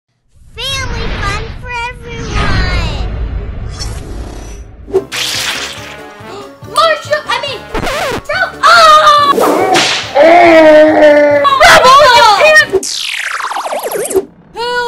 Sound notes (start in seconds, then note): 3.9 electricity cackles; 5.1 doll sloshing; 5.1 whip lashes; 8.6 screams